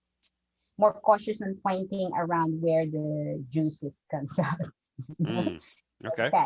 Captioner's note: chuckles